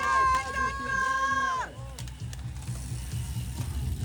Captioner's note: shouting